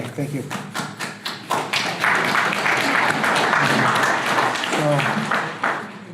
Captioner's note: audience applause